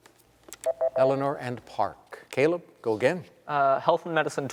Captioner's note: beep